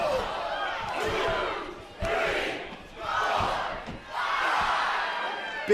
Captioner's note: crowd cheering